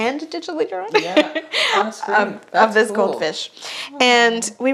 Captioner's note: giggles